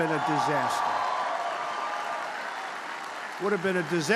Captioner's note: applause